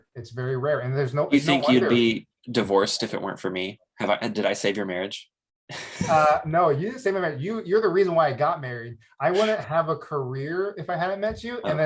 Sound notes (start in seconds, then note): 5.7 chuckles